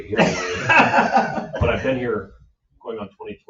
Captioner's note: laughing